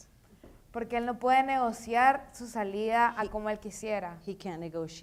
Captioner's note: speaking in foreign language